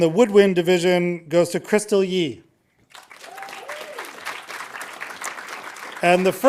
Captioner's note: audience applauding